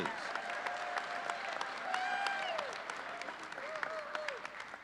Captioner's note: audience cheering